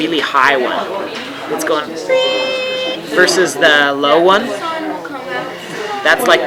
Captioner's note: squeals